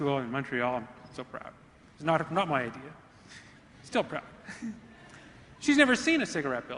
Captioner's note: laughs